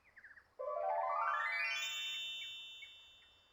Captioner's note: magical sound effect